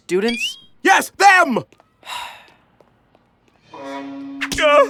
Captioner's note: exasperated sigh